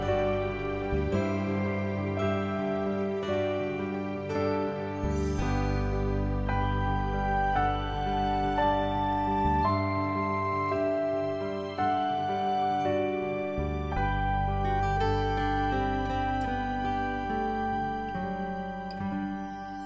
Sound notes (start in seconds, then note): 4.9 chimes ringing; 8.6 soft gentle music